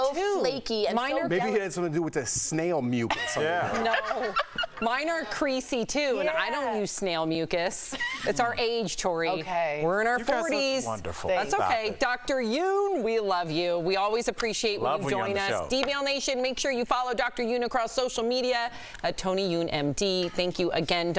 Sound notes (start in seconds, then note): 7.9 laughter